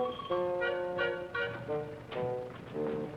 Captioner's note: door opening, footsteps